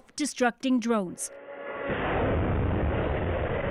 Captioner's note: blasts